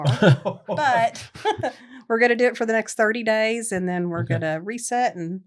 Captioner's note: laughter